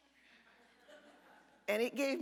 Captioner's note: audience laughter